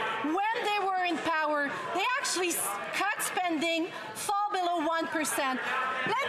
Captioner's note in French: voix de l'interprète